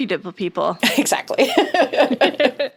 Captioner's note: laughs